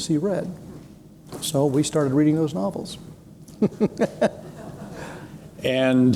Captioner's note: chuckles